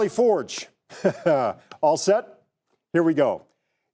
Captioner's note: laughs